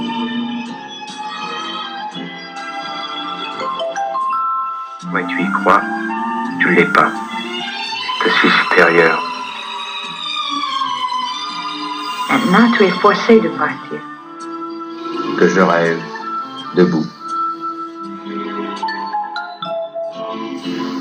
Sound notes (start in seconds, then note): 0.2 romantic music; 5.0 voiceover of man speaking in french; 8.2 voiceover of man speaking in french; 12.1 voiceover of woman speaking in french; 15.1 voiceover of man speaking in french; 18.0 romantic music